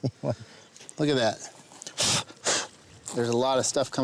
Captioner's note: blowing off surface